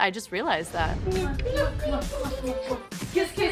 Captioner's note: smooching sounds